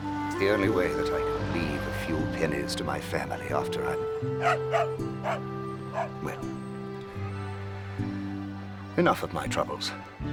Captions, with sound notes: It's the only way that I can leave a few pennies to my family after I... (dog barking) Well, enough of my troubles.